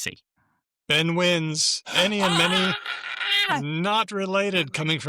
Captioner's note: screams